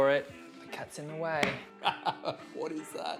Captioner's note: man laughs